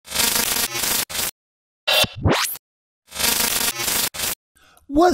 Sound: electronic static buzzing

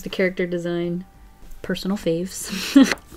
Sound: laughs

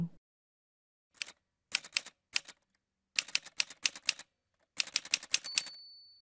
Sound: typewriter sounds

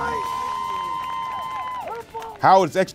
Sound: cheers

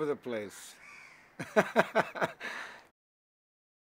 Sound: laughs

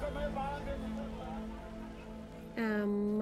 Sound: city rumble

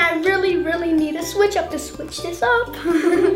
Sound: laughs

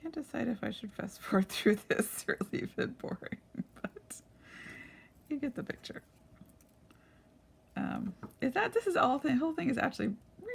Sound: laughing

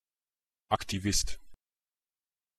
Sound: fast Pronunciation

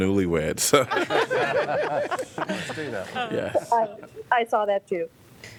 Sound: laughter

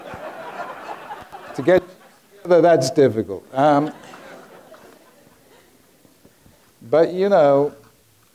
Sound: audience laughing

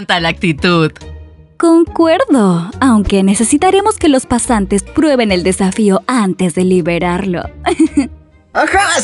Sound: giggles

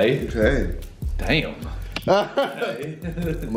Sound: laughs

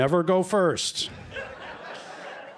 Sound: laughter

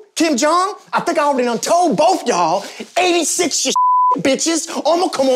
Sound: beep

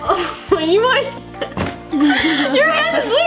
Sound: laughs

